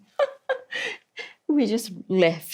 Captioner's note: laughs